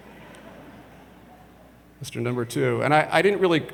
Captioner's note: audience laughs